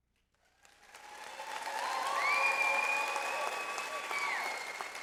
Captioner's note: audience applauds